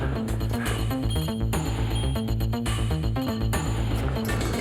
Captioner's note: elevator beeps